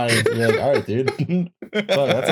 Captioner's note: laughs; chuckles